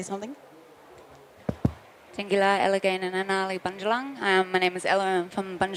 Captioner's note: speaks indigenous language